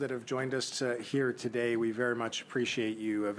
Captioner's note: speaking French